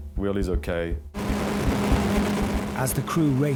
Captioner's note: lifeboat engine whirring; wind swooshing